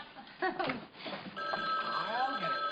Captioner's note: telephone ringing